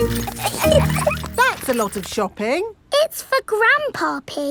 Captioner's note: laughing